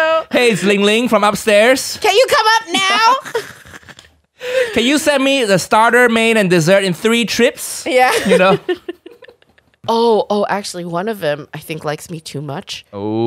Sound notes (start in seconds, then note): 2.7 laughter